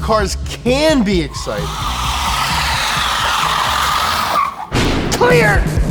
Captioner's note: tires screeching